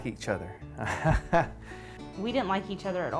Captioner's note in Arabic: يضحك